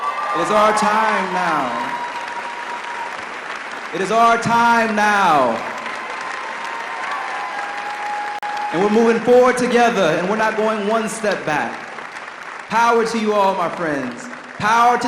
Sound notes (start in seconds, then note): 4.4 audience applause